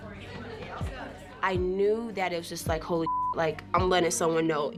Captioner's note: chattering indistinctly; beep